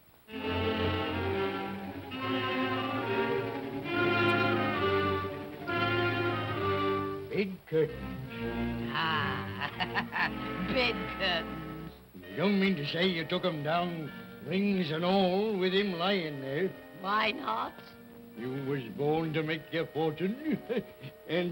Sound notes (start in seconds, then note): 0.4 tense ominous music; 8.9 laughs